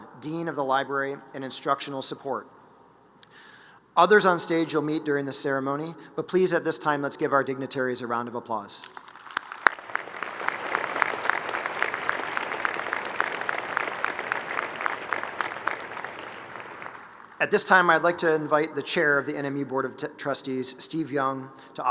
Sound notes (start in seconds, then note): 8.9 crowd applauding